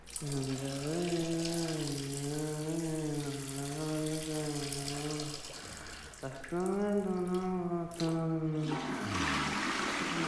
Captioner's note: humming